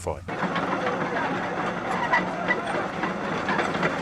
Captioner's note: wheels clanking